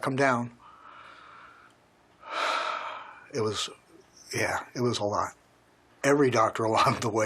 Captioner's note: sigh